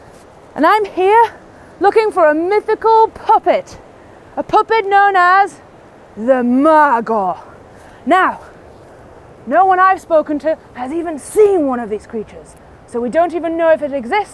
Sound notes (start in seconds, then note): none